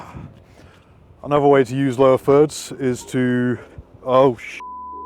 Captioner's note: beep